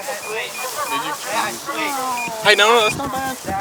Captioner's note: beeping